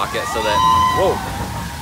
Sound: roller coaster roars

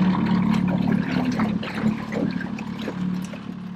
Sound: sloshing

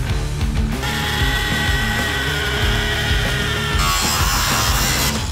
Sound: drill hums; grinder whines; upbeat rock music continues

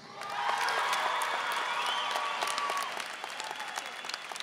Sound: audience cheering

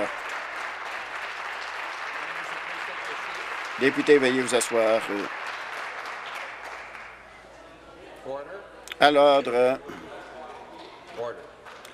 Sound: applause

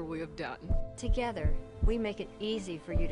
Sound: heart beats

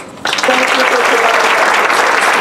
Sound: applause

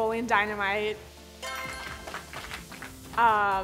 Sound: applauding

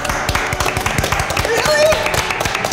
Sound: applauding

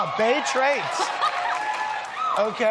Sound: laughs

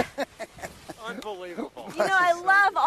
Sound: laughing

